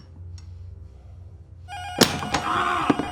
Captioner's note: intercom rings